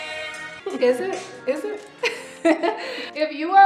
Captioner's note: laughs